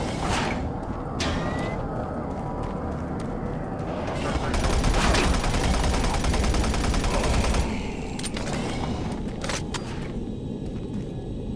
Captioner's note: ominous music; gunfire